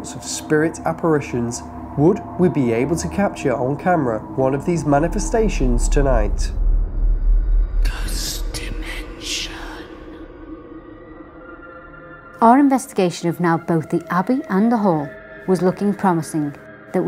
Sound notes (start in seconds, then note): 8.2 ghostly Voice; 11.6 eerie music